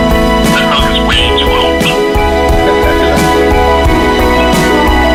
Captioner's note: man Over Phone